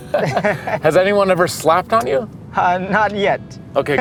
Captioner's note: laughs